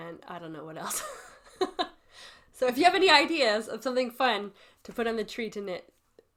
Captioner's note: laughs